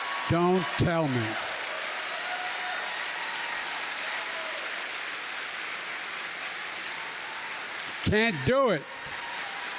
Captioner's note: applause